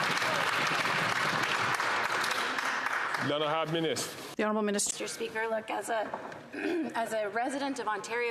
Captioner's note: some Applause